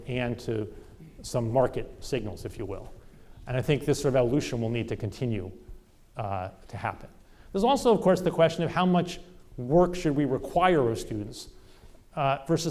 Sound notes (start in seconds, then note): none